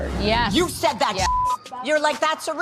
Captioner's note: beep